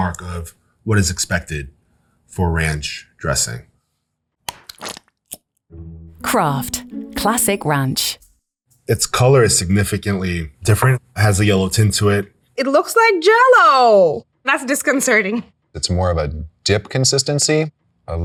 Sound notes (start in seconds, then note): 4.4 ranch squelching; 4.5 cap pops